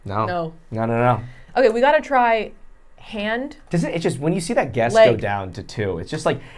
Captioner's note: none